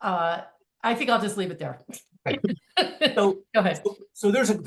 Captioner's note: laughing